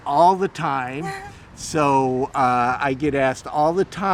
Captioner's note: laughing